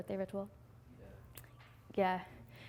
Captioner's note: voiceover